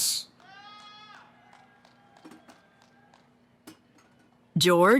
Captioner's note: cheering